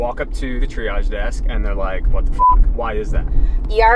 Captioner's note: beep